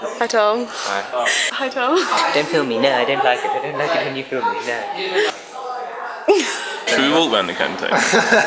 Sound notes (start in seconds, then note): 4.8 laugh